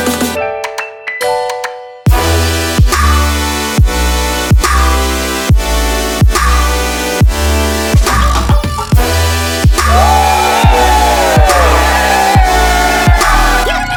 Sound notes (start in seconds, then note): 9.8 crowd yells